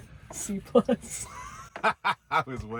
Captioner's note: both laughing